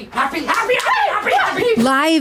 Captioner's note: squeals